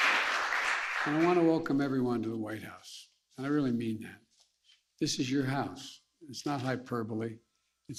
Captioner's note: applause